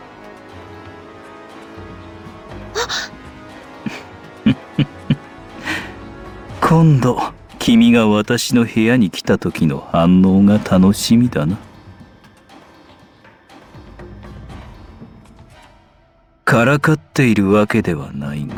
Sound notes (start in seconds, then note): 2.7 chuckle